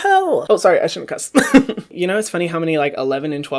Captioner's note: laughs